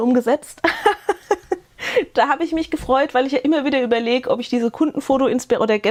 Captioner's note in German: gelächter